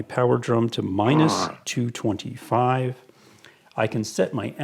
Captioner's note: monster grunting